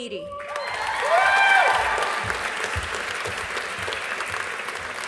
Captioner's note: audience applauding